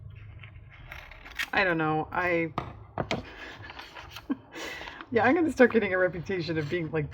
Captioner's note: laughs